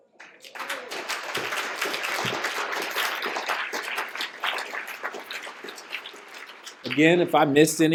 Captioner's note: applause